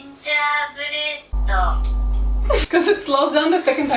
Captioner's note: Google translate voice speaks in slo mo; ominous music